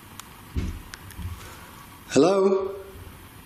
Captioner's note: loud thumping